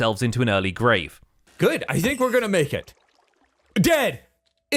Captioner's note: rabbit squeaks